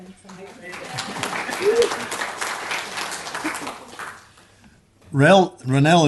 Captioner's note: applause